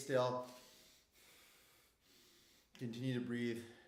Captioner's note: breathing hard